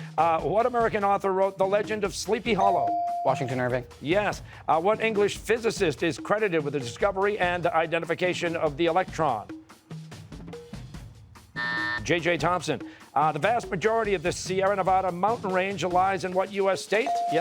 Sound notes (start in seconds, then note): 11.6 buzzer